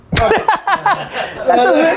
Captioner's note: laughing